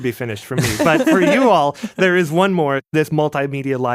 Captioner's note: laughs